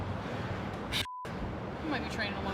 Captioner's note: beep